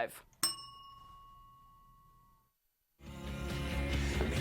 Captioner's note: bell dings